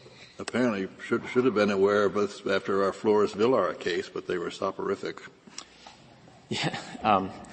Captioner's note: laughter